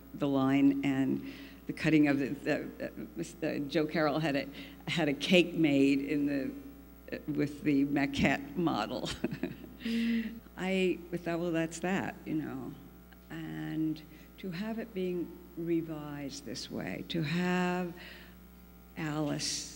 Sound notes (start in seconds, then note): 9.7 laughs